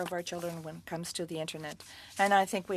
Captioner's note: speaking French